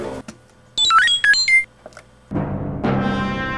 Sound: electronic Beeping

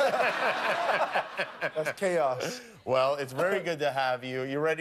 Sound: laughter

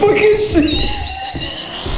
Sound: wheezes; turret powering on

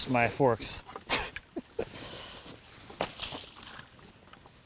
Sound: laughing

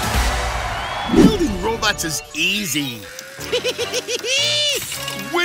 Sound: laughing

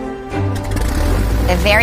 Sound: engine starting

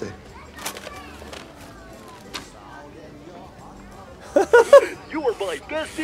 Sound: laughter

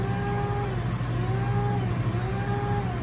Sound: grinding

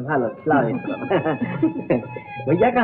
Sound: laughs

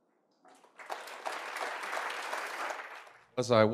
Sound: audience applauding

